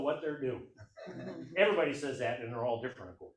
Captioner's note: audience laughs